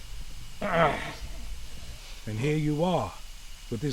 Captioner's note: Dogmouth groans